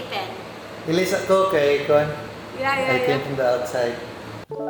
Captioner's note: speaks in Bisaya